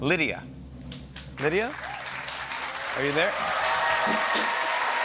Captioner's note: cheers and applause